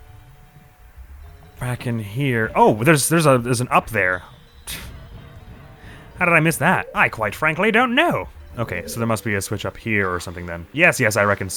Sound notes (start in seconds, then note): 5.7 scoffs